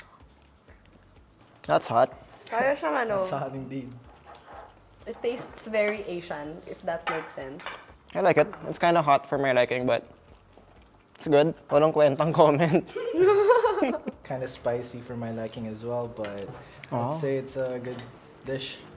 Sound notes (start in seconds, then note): 12.8 laughs